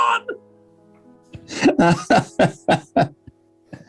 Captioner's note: laughing